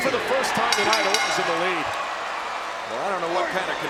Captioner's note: bell rings